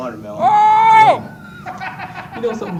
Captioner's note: surprised laughter and shock